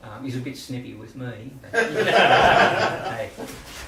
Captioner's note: laughter